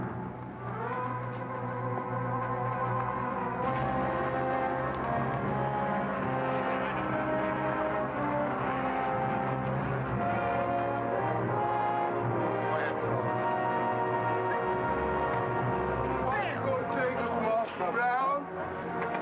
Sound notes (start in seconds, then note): 0.3 suspenseful music; 6.9 passengers murmuring; 6.9 suspenseful music